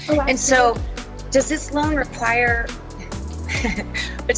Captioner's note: chuckles